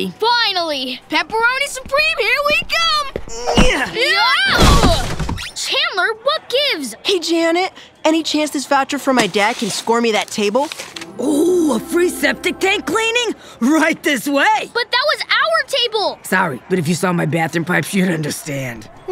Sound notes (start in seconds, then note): 3.3 groaning and yelling